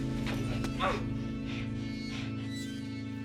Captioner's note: Joe moans